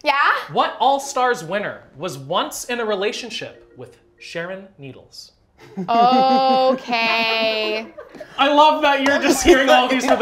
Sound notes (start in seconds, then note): 5.6 laughter